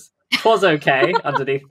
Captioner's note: laughs